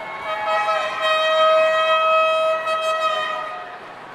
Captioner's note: horn honking